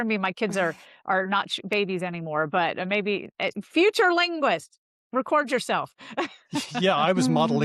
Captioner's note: laughs